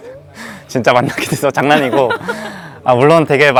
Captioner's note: laughs